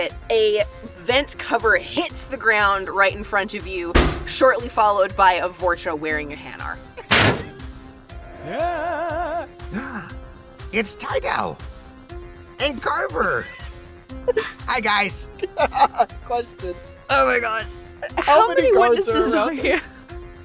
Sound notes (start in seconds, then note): 7.0 thud; 8.2 groans; 15.3 laughs